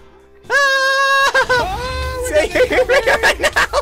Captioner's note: screams; explosions